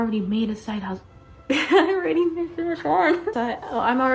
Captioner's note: giggles